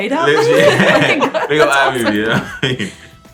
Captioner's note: laughter